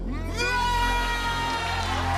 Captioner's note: both scream; cheers and applause